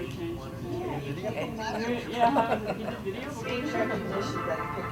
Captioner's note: audience talking